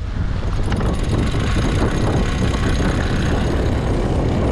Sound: whirring

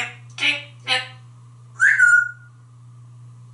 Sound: whistle

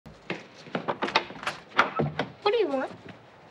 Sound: door handle clicking

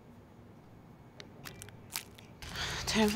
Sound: wrappers crackling

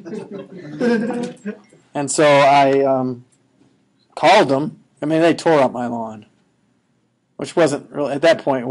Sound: laughing

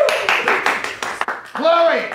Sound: whispering

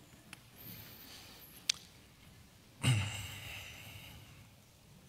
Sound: sighs

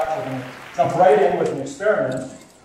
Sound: applause

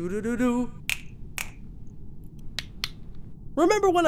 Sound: fingers clicking

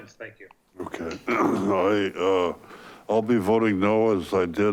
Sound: clears throat

